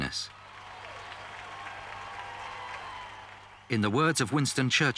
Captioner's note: crowd cheering